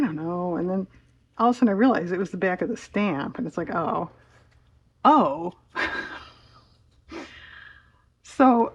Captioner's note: laughs